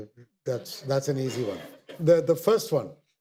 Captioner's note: audience laughter